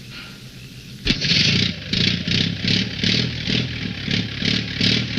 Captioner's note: car engine roaring